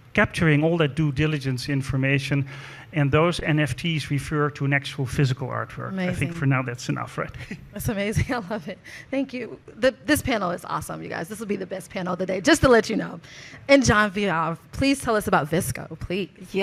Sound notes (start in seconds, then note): 8.5 chuckles